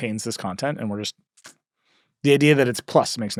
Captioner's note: sucks teeth